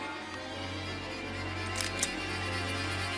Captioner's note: cocks gun